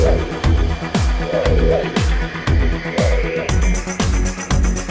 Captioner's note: whirring sound